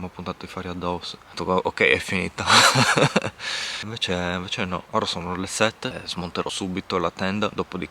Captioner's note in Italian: risate